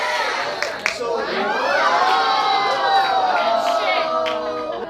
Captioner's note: audience ohs